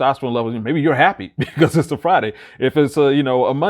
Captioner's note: chuckles